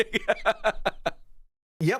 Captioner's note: laughter